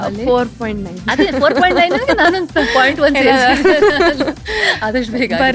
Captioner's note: laughs